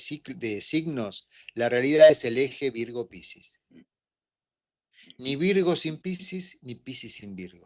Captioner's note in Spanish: carraspeo